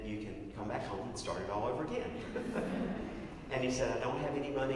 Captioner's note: laugh